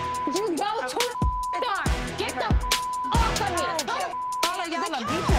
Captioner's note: beep